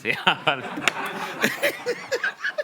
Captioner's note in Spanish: Risas